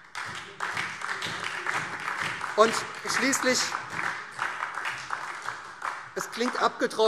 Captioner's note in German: Beifall SPD